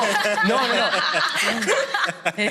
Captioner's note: they laugh